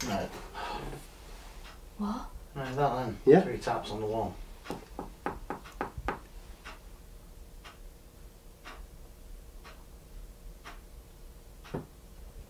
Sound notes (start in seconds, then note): 4.7 knocks on wall